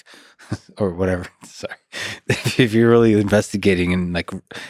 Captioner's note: chuckles